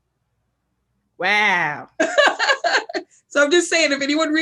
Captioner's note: laughs